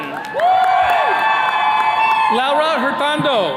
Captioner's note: attendees cheering